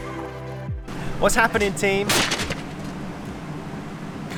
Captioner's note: crash